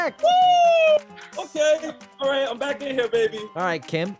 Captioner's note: cheers